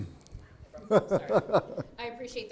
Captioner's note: laughing